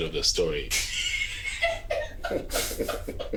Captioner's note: giggling